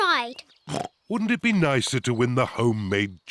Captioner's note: oinks